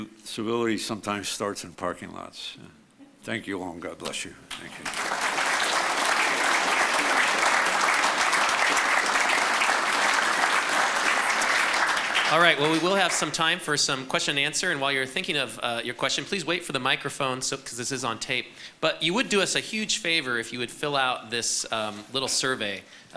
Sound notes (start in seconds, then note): 5.4 audience applauds